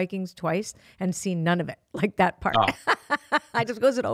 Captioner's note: laughs